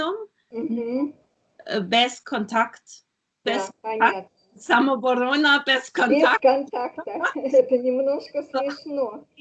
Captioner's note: laughing